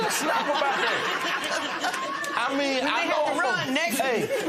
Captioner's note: laughter